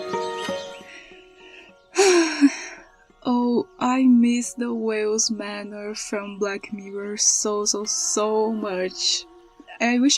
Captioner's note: sigh